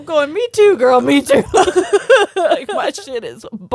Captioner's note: both laughing